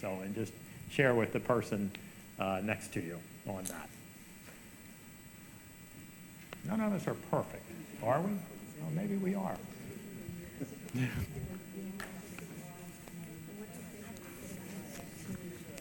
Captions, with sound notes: and just share with the person next to you on that. None of us are perfect, are we? Or maybe we are. (group chatter)